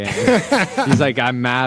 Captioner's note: laughs